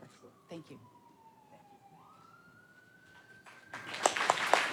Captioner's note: siren blaring; audience clapping